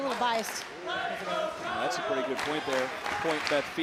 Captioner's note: crowd chanting "let's go kyle"